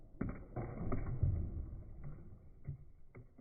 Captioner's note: objects thuds